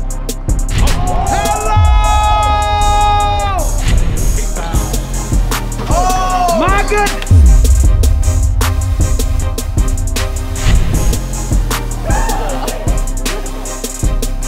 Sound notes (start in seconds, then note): 0.8 crowd cheering